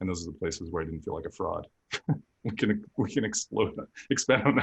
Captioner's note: laughter